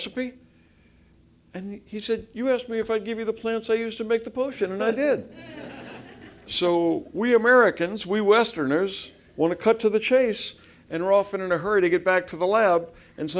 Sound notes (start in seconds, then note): 4.6 laugh